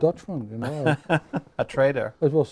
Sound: laughing

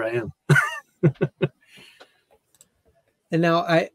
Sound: laughs

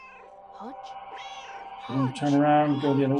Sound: Hodge meows

